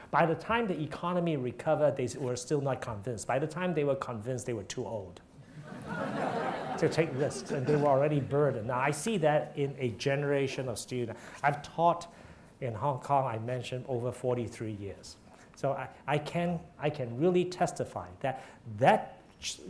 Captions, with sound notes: By the time the economy recovered, they were still not convinced. By the time they were convinced, they were too old (audience laughing) to take risks and they were already burned. Now, I see that in a generation of, I've taught in Hong Kong, I mentioned, over 43 years. So I can really testify that that,